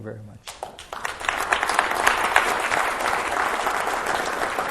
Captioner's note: applause